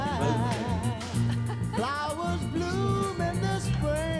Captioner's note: laughs